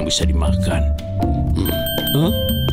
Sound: ringing

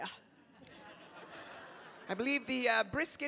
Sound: audience laughing

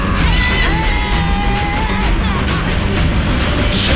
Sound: crowd cheering

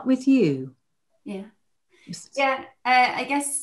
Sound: speaks faintly

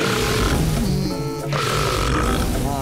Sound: munching; burps

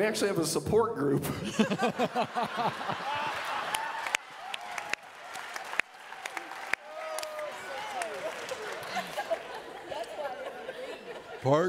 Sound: audience laughing

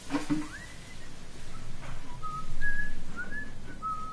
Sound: whistles

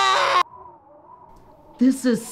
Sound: wind whistles

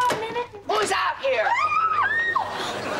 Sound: screaming

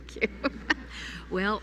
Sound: laughter

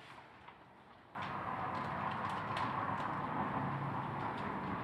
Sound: wind howling

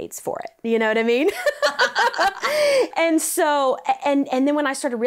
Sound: both laugh

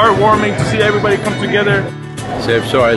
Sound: laughs

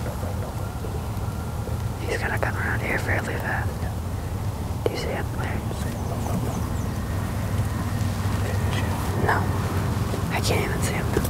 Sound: whispering

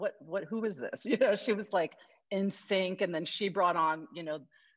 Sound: laughs

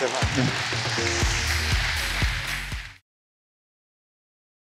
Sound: applause

